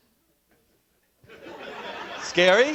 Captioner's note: laughter